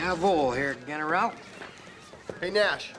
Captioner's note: speaking german